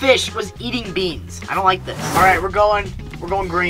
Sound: air whooshing

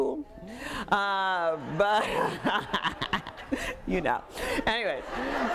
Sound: audience laughing

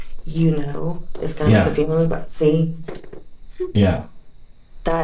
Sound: cat ball goes off

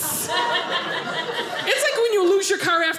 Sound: audience laughing

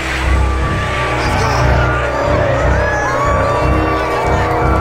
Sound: crowd cheering

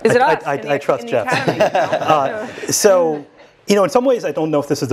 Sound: laugh

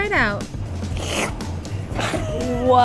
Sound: slurping; laughs

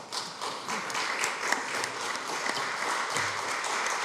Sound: applause

